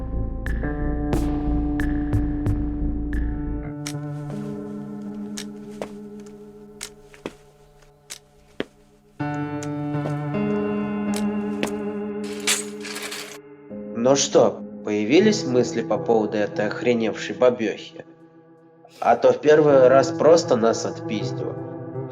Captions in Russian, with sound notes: (звук костылей) (скрип кровати) – Ну что, появились мысли по поводу этой охреневшей бабёхи? А то в первый раз просто нас отпиздила.